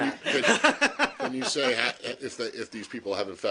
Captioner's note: laughter